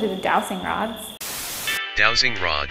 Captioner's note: white noise hisses; jaunty music